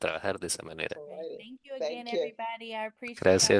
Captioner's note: hablando inglés